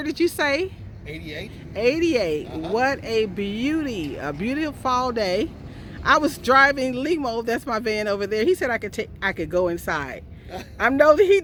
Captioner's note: laughter